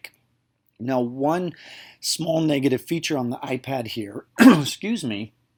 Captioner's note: cough